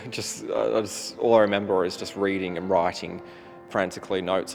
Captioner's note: chuckles